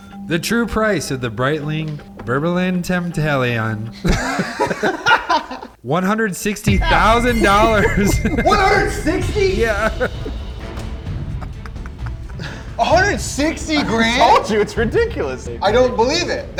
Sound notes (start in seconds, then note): 4.0 group laughs; 10.2 dramatic music